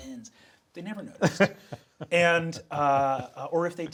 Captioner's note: Sam chuckling